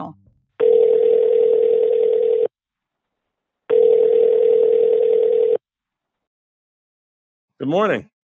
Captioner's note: phone ringing